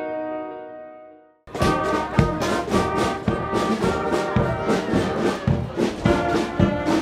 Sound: marching band music; people chatter indistinctly

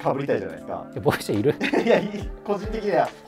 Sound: laughing

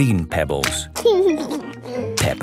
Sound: laughing

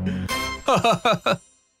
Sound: laughs

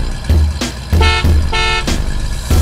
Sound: beep beep

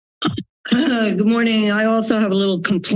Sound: clearing throat

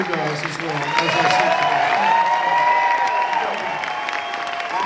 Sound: crowd cheering

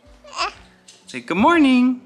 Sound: babbling

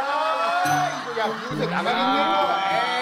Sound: groaning

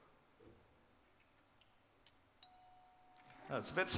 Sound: doorbell

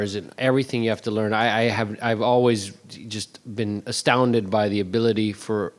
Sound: none

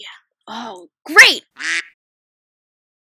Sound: quack

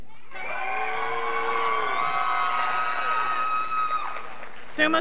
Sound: scholars applauding

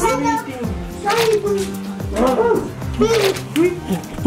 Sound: portal goo squelching; panting

